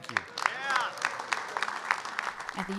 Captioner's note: applause